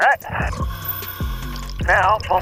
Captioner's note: apparatus inhales